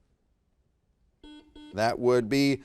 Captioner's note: buzzer beeps